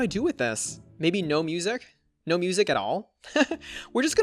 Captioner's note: laughs